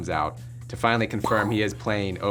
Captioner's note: makes popping noise